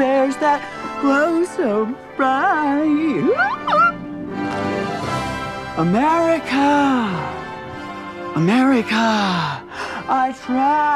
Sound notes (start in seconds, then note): 3.2 squeals